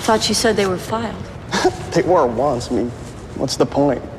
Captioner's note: chuckles